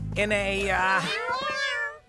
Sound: meowing

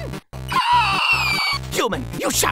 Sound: excited Hunting Squeal

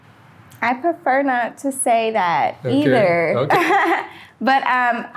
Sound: laughing

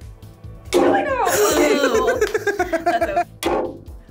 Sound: hammer slamming; nail thuds; laughing; nail thuds

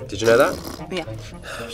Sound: blows raspberry

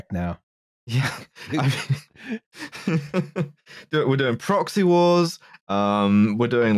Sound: laughing

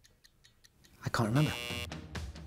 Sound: upbeat music; buzzer buzzing

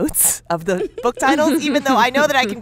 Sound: laughter

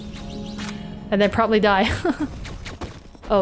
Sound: chuckles

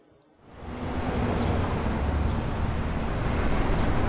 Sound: traffic hums

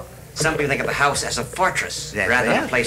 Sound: voiceover

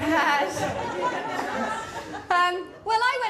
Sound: laughter

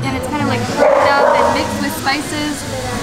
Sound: dog barks

